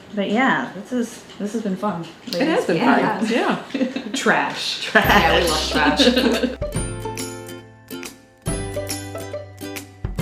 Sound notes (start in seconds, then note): 0.0 chuckles; 4.8 everyone says "Trash!" and chuckles; 5.0 background music continues; 5.1 instrumental background music begins